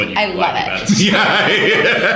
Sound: laughter

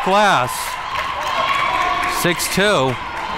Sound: crowd cheering

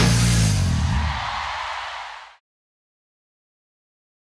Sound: crowd cheering

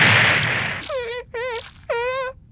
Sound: whimpering

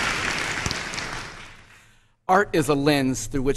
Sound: applause

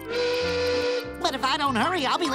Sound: horn blows

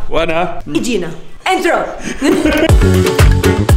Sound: laughs; intro music plays

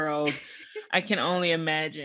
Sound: chuckles

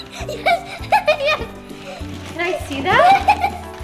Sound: giggling

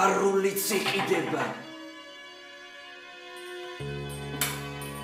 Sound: door knocks

